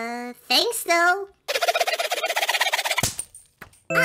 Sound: filing sounds; rope snaps

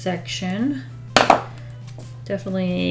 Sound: marker bangs on desk

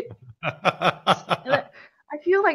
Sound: laughing

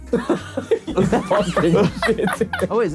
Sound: laughing

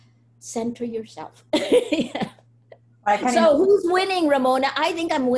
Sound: laughs

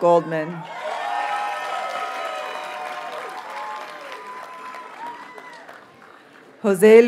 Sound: audience cheers and applauds

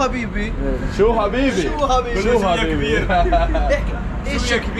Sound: speaking in Arabic

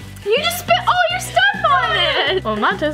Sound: mom whines

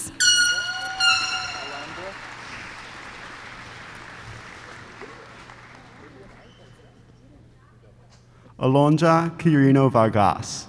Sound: applause

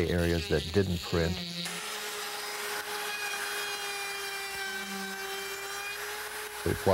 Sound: wood router buzzing

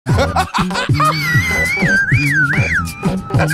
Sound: Jordan laughing

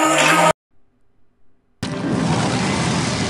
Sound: uncorfontable silence

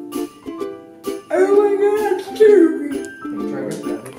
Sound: in a silly voice

